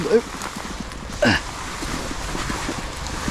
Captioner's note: grunting